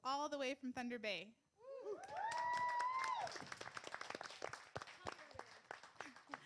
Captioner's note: cheering and applause